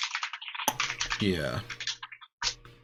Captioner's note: keyboard keys clanking